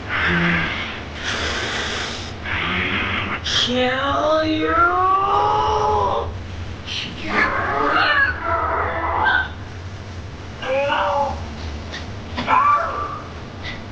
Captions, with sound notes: (hissing) - Mmm kill you! (growling) (grunting) - No, oh!